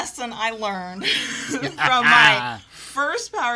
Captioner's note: both laugh